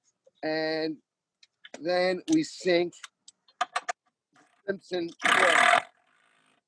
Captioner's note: drilling